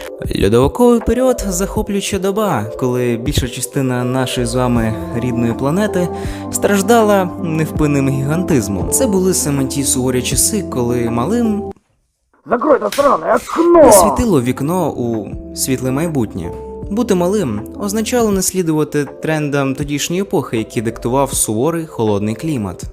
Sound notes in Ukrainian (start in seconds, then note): 11.9 холодний зимовий вітерець з вулиці